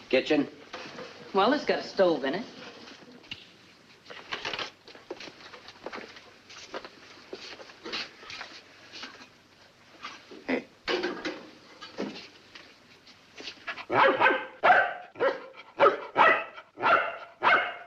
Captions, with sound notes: Kitchen? - Well, it's got stove in it. - Hey. (dog barking)